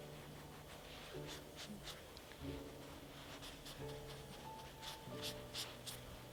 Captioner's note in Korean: 슥슥슥 브러쉬 소리